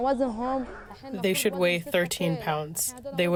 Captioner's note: through translator